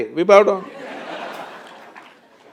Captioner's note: laughter/Applause